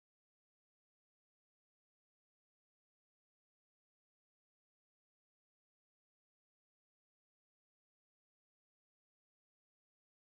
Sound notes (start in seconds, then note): none